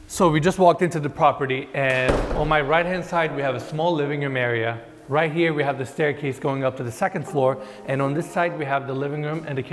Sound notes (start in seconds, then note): 1.9 door slams